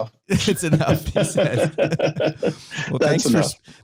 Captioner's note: laughs